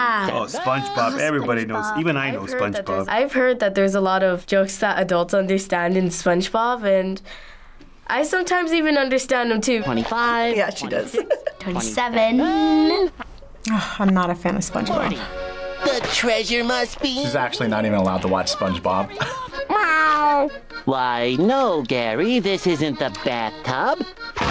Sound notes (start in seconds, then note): 10.5 chuckles; 18.9 chuckles; 20.0 Gary meows